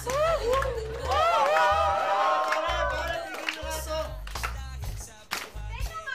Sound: cheering; laughter, hooting

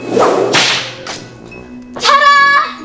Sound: whip cracking

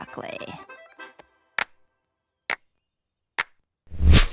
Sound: clapping

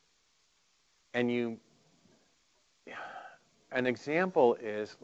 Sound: sighing

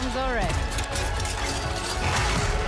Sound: metal clanking

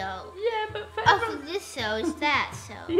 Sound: chuckles

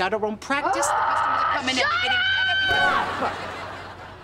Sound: groaning

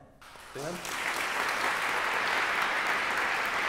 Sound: applause

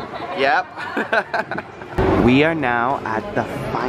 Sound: giggles

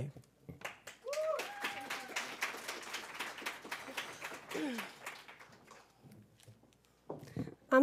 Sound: applause

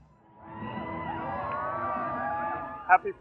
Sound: crowd cheering

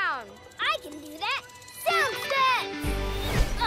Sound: none

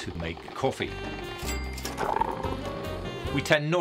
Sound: coffee machine whirring

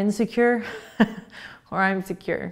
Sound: laughing

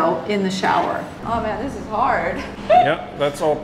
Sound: chuckles

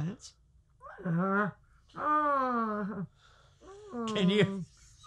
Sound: Franky groans

